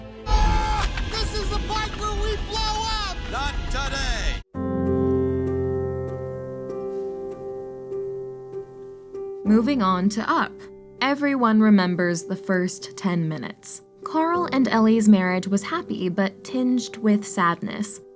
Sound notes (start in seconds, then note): 0.2 screams